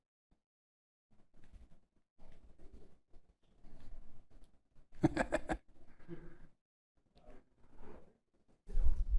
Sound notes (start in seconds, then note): 5.0 chuckles